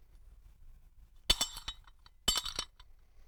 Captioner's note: clunk; clank